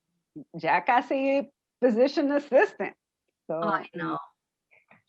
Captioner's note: spanish